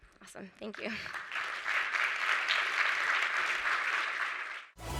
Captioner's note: applause